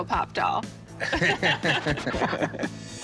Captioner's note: both laugh